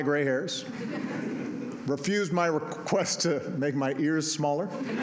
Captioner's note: laughter